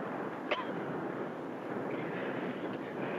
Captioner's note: coughs